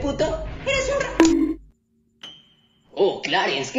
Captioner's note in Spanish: bong